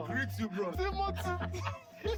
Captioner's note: laughing